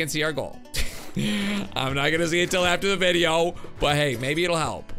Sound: laughs

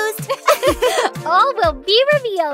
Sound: both laugh

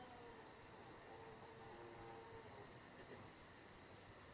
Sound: faint Shrieking

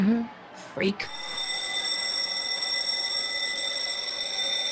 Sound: bell rang

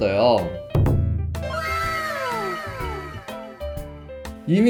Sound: crowd going wild

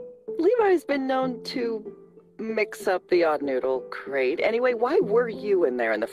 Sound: none

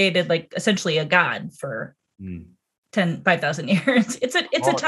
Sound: laughs

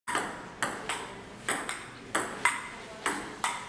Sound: ball bouncing

